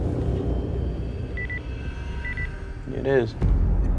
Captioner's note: beeping